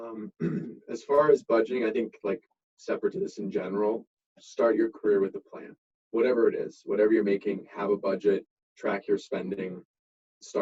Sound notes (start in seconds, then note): 0.0 clearing throat